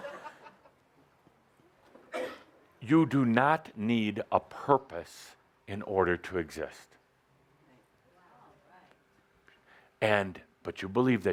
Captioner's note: some laughter